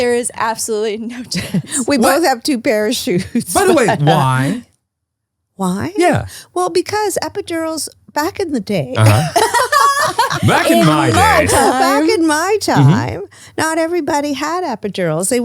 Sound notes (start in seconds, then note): 3.1 laughs; 9.0 laugh